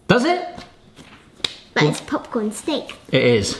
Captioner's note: hands slapping